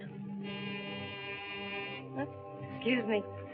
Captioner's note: phone buzzes